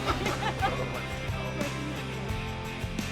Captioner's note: both laughing; indistinct chatter